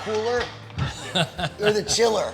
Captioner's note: laughing